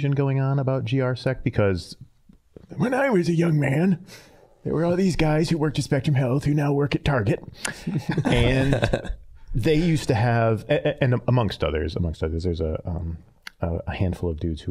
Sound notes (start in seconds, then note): 2.6 in old man voice; 7.7 all chuckling; 8.3 normal voice